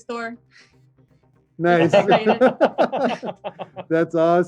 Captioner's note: chuckling